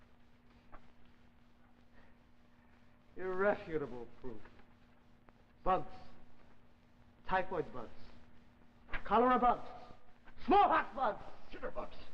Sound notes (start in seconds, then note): 2.9 Chang's voice; 5.5 Chang's voice